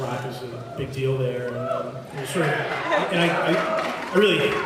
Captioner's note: applauds, cheers